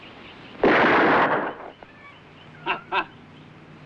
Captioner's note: gun firing